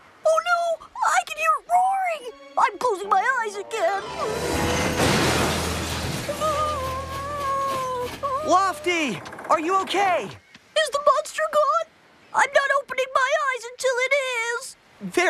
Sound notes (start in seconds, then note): 4.1 crash!; 6.3 whimpering